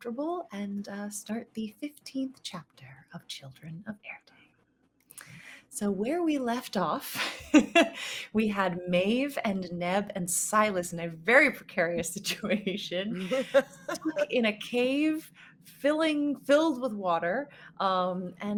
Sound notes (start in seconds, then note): 7.5 laughing; 13.1 chuckling